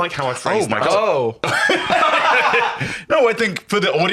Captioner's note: laughing